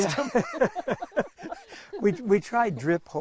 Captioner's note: laughing